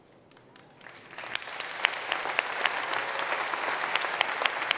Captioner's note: applause